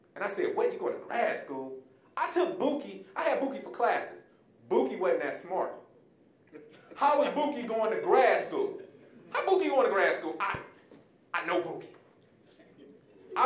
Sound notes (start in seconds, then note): 6.9 audience laughing; 12.5 audience chuckling